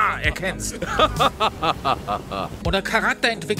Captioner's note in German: Superbösewichtiges Lachen